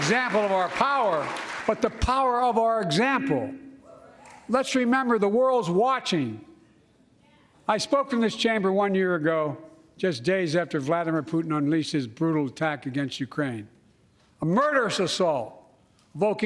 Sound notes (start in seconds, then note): 0.0 applause